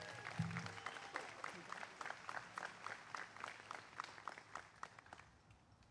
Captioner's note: applause